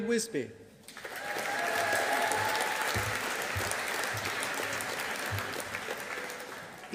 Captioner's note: audience applauding